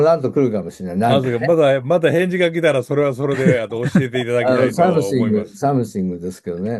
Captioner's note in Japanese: 笑い; 笑い